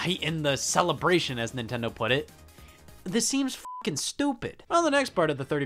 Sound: beep

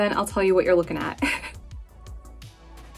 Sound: laughing; upbeat music

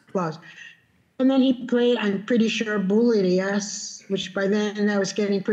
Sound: speaking Spanish

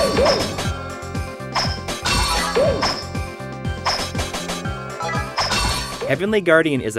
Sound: game audio

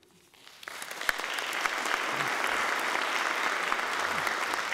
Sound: applauding

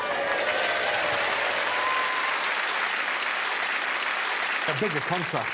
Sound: crowd applauds and cheers

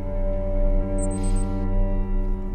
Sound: watch beeping

